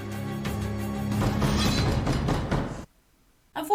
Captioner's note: knock knock knock